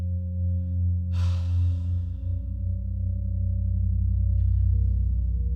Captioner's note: Jeweler sighing